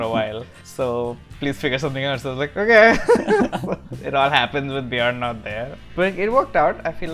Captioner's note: laughs; laughter